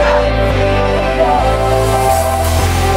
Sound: distant clapping and cheering

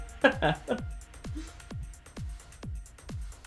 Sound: laughing

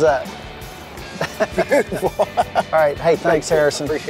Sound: laughing

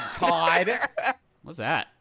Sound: laughing

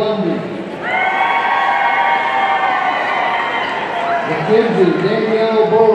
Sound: audience cheering

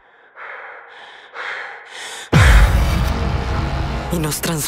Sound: heavy breathing

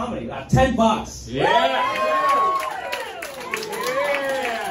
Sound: crowd Cheers

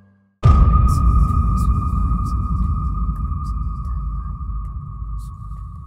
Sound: eerie music; whispering

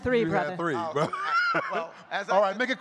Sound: laughs

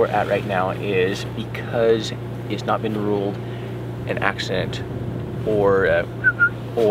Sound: whistles

